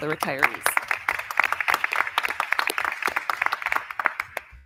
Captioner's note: crowd clapping